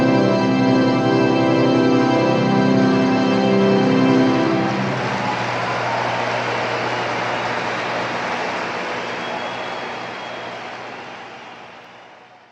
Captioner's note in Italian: Applauso